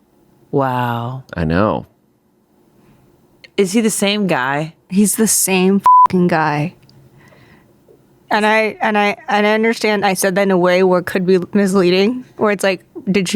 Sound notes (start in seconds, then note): 5.8 beep